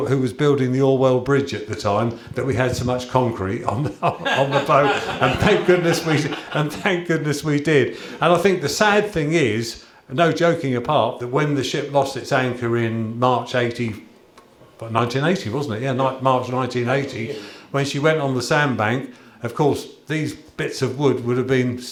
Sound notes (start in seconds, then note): 3.8 laughter